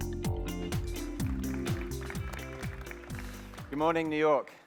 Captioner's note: applause